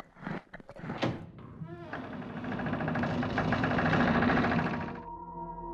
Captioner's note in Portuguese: Porta se abrindo devagar